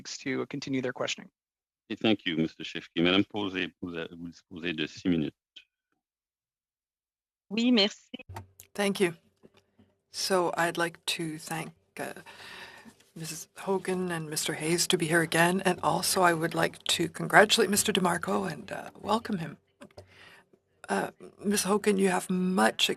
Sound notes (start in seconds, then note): 7.2 speaking French